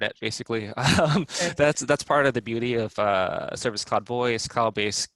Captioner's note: laugh